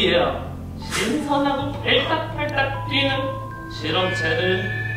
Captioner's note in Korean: 샥, 효과음; 샤아악, 공포스러운 효과음